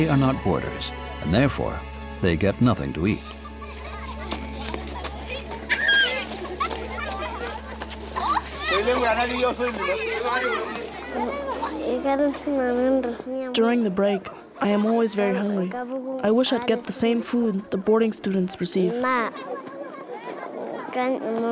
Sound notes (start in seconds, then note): 9.8 children laughing; 13.1 chattering